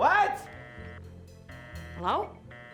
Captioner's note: phone disconnected